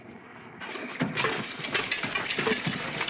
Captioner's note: clanking